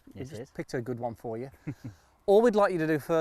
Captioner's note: chuckles